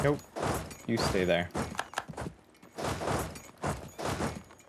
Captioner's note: typing